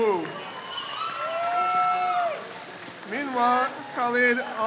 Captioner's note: crowd cheers